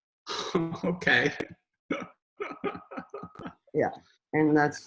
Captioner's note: chuckles